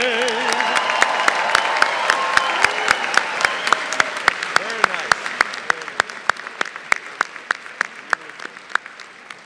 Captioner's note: applause